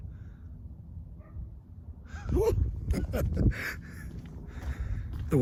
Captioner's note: dog barks; laughs